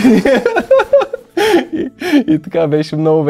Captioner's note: laughter